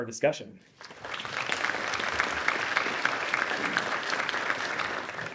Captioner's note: audience applauding